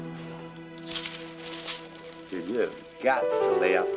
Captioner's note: bead curtain rattling